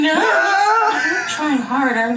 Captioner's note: laughs and groans